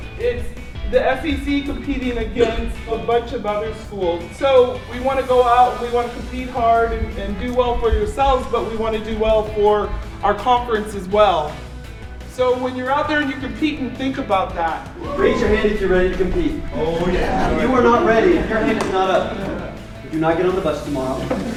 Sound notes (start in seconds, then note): 16.8 voiceover